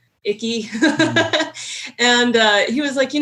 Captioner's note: laughing